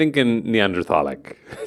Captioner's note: laughs